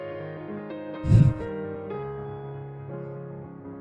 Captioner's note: sobs